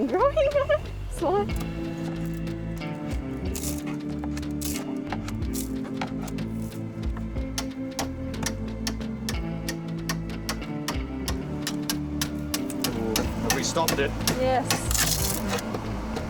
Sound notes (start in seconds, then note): 0.0 laughs; 3.0 fiberglass crackles; 7.7 hammer taps